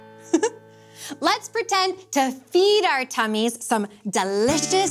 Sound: giggles

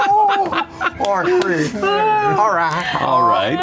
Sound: laughter

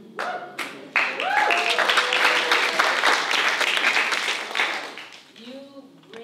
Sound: applause

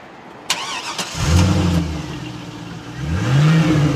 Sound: engine puttering

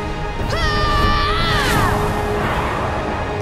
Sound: yelling

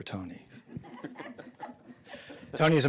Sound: audience laughing

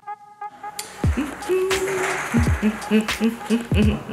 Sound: humming

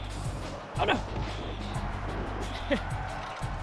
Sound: laugh

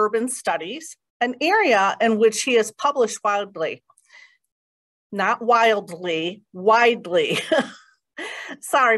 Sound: laughter

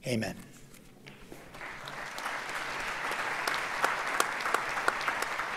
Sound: audience applauds

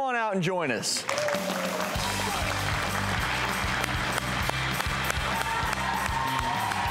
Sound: crowd cheers; upbeat music

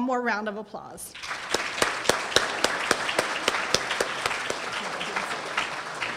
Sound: audience applauds

